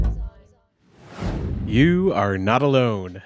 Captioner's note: deep bass music; transition whooshes